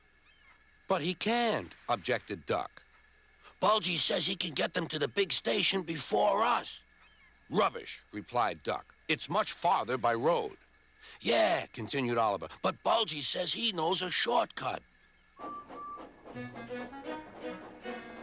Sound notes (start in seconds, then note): 15.4 toots